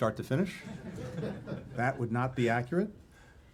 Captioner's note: laughter